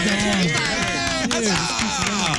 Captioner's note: all Clapping